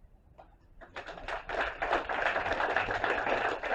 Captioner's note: applause